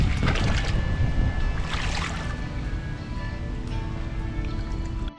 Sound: water splashing

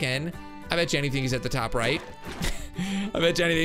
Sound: laughs

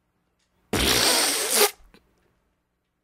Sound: mad beatboixng skills

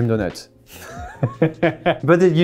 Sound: laughing

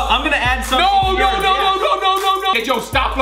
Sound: shouts

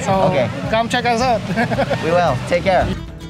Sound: laughs

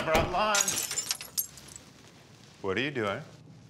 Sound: glass breaks

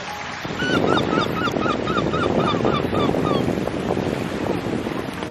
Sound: seagulls

